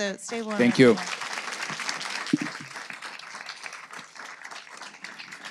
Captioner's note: audience applauding